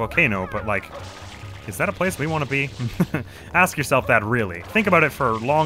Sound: chuckles

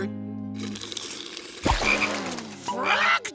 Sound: croaking

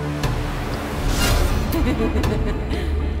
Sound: laughing

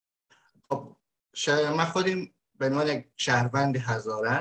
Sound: speaks in Dari

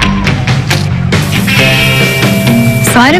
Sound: food sizzle

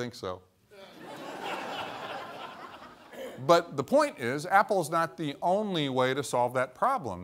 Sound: laughter

